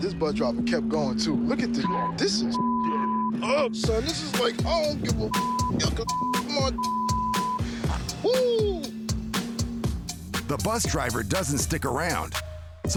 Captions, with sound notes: This bus driver kept going too. Look at this (beeps) this is (beeps) up, son. This is like, "I don't give a (beeps) "Ya'll can (beep) my (beep) whoo! >>The bus driver doesn't stick around.